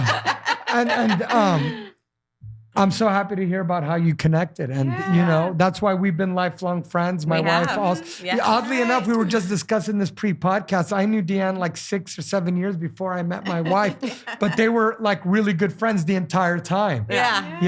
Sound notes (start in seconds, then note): 7.3 laughing